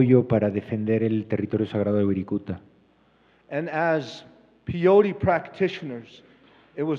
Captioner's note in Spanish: Expositor habla en inglés